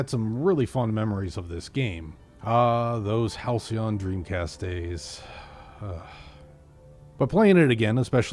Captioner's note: sighs